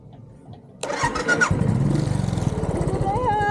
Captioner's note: engine starting